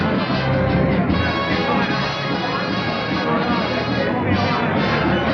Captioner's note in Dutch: geklets